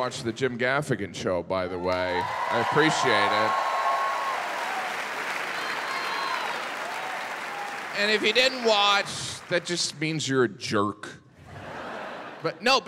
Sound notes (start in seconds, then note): 2.4 audience cheering; 11.5 audience laughing